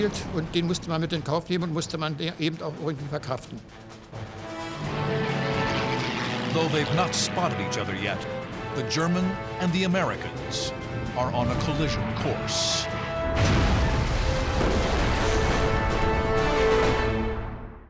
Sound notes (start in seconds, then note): 13.2 crashing